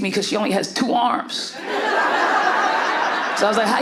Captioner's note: audience laughs